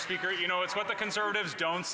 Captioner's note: some Applause